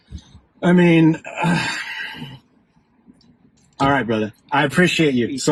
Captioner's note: sigh